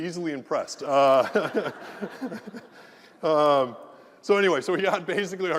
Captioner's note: laugh